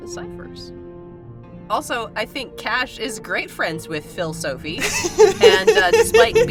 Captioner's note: chuckles